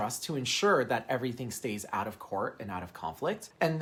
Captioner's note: none